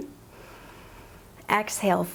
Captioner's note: inhales